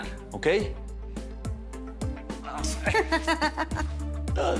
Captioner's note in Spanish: Risas